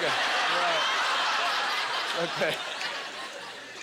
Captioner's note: audience laughter